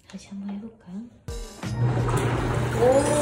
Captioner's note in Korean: 위잉